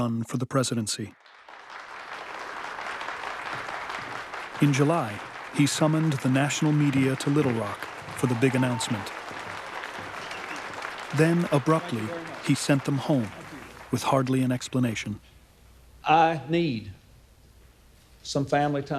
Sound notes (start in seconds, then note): 4.3 applause